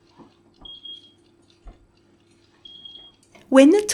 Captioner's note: oven timer beeps